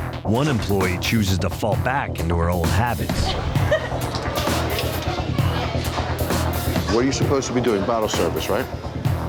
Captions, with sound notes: one employee chooses to fall back into her old habits. [LAUGHS] What are you supposed to be doing, bottle service, right?